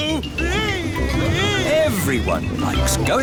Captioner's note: screaming